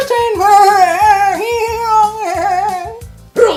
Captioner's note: bleating in excitement